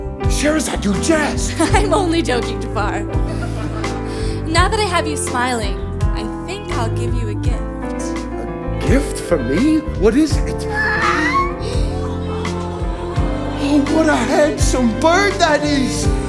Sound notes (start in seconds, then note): 3.2 laughs; 11.0 squawk